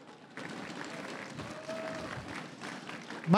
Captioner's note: crowd cheering and applauding